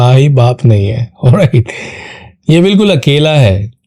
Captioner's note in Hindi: अचानक ज़ोर से सांस लेने की आवाज़